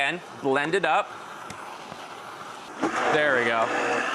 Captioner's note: blender mixing